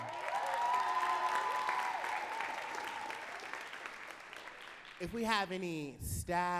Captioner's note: audience cheering and clapping